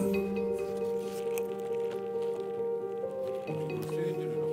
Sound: slurp

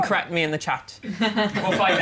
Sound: laughter

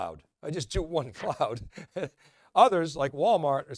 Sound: laughs

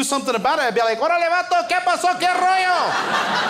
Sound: foreign language; crowd laughs

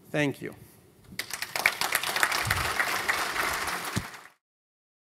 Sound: applause

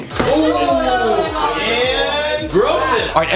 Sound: Collins' friends talking

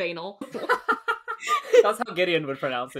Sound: laughing

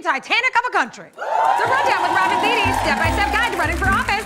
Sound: cheering and applause

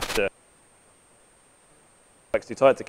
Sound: microphone cuts out

